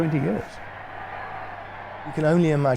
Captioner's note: crowd cheering